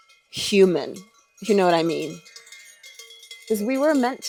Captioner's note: sheep bells clanging